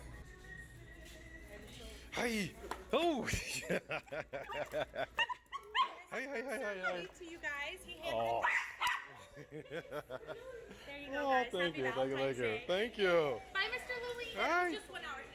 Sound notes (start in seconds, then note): 3.2 laughing; 3.6 barking